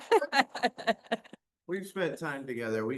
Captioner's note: laughter